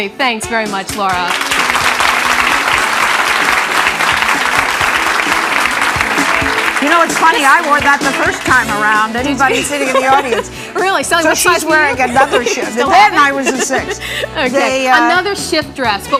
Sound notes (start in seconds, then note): 0.9 audience clapping; 9.4 giggling